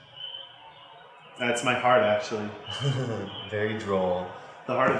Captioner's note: laughs